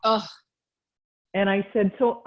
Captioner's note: sighs